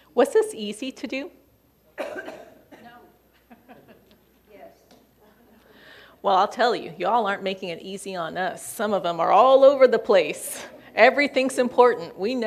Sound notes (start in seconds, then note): 3.3 laughing